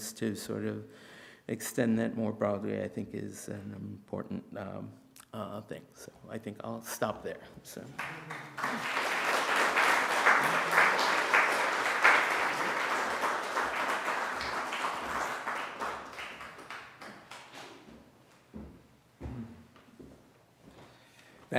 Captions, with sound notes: to sort of extend that more broadly I think is an important thing. So, I think I'll stop there. (audience applauding)